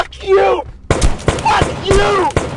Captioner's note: gunshots booming